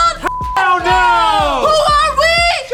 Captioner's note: beep